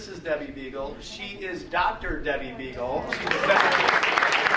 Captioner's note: audience applauding